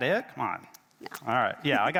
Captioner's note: chuckles